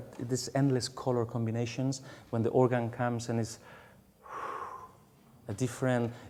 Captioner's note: sighs